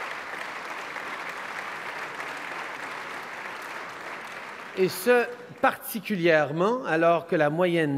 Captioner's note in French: Applaudissements